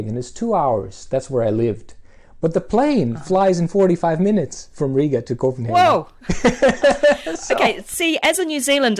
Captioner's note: laughs